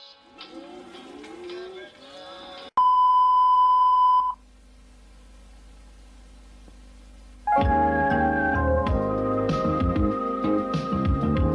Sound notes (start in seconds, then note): 2.8 beeping; 4.7 VHS static